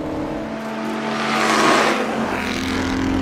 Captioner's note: GP car roar; car roar pass